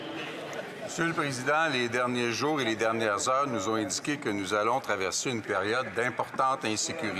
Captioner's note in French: voix de l'interprète